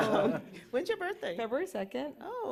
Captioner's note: laughter